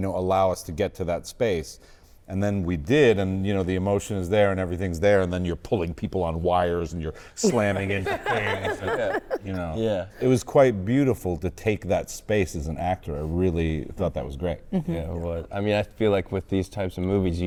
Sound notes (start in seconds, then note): 7.4 all laughing